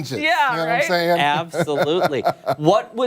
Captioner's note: laughter